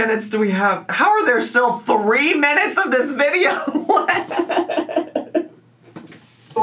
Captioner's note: laughs